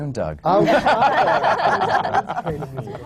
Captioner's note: laughter